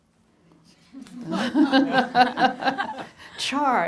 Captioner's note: laughing